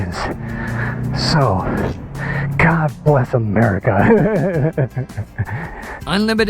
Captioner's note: laughs